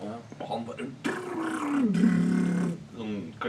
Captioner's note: imitates wild drumming